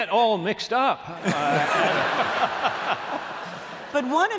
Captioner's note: laughter